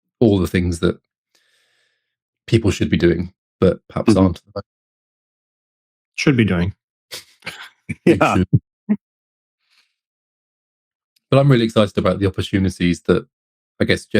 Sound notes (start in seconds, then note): 7.4 laughing